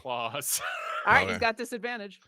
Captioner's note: laughs